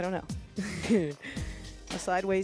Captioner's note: laughs